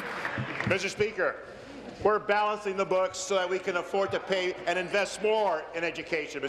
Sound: applause

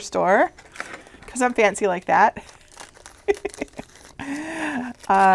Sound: laughs

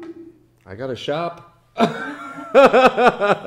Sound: laughs

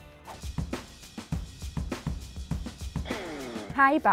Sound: rhythmic rock music; air whooshes

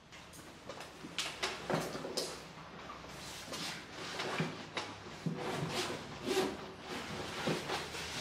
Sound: sounds of packing and zipping

